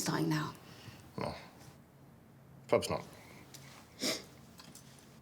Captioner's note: sniffs